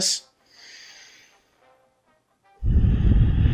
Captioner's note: sighing